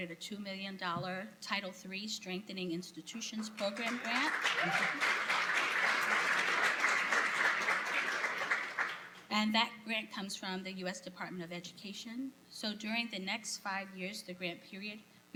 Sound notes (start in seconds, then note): 3.4 applause